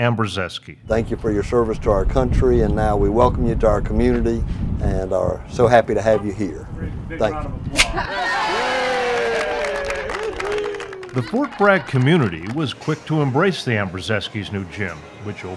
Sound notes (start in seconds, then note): 8.0 cheering